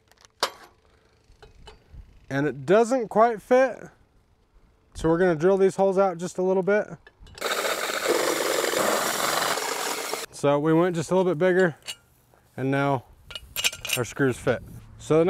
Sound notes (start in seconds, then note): 7.4 drill roaring